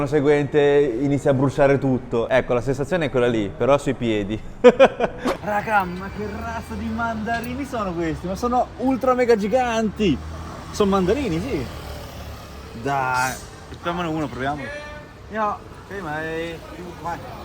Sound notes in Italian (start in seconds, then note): 4.6 risate